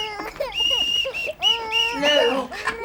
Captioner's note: whistle